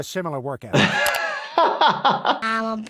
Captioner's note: laughs